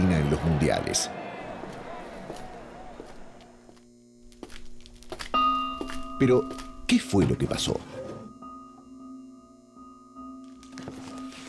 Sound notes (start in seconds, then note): 1.4 lights buzzing; 10.6 papers ruffling